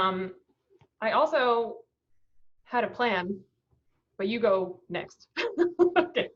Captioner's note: laughs